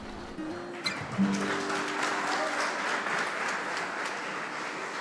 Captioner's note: crowd clapping